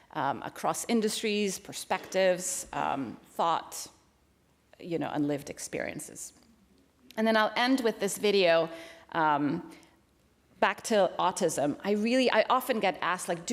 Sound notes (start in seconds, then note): none